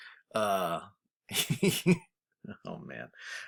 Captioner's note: instructor laughs